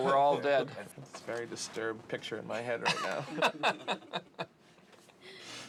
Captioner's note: laughing